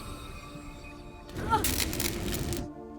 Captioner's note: crackling; soft music